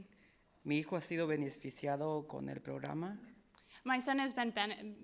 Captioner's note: speaking in foreign language